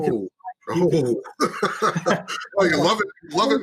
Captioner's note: laughing